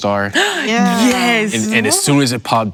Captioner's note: gasp